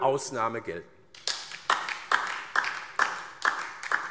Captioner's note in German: Beifall DIE LINKE